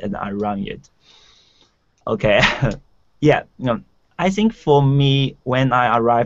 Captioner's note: laughing